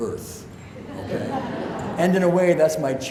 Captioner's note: audience laughs